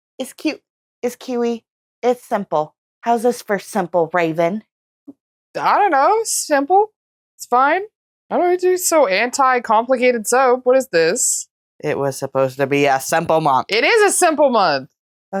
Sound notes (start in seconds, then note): 8.2 stammering